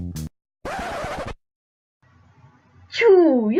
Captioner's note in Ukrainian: DJ Диск Царапина